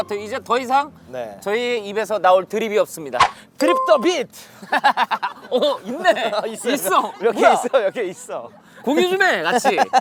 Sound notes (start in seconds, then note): 4.4 laughing